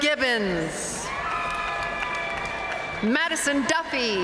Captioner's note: audience cheering and applauding